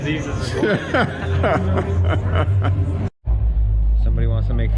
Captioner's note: laughing